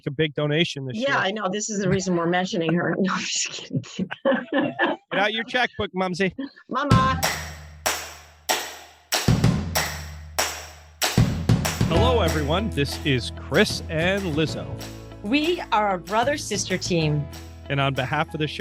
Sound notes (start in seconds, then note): 4.4 siblings laughing; 7.9 upbeat guitar music